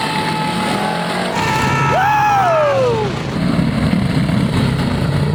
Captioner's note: sideline cheering